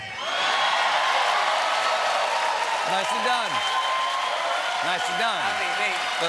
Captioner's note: cheers and applause